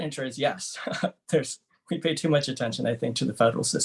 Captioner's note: laughter